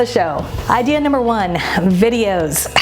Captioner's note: air whooshing